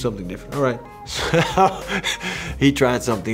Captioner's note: laughs